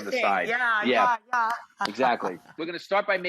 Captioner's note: claps hands